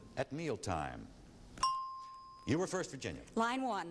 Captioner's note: ding